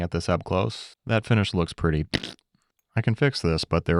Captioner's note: imitating fart